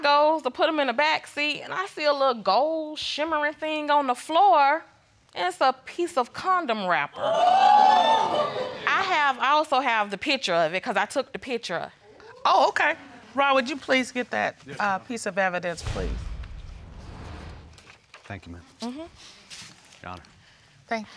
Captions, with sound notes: So I goes to put them in the back seat, and I feel a gold, shimmery thing on the floor, and it's a piece of condom wrapper. (AUDIENCE EXCLAIMING) I also have the picture of it, 'cause I took the picture. Oh, okay. Ron, would you please get that piece of evidence, please? Thank you, ma'am. Your honor.